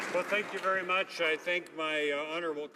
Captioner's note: applause